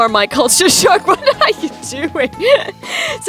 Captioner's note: giggles